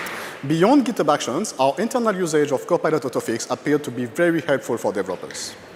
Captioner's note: applause